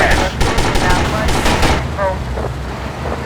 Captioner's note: gunfire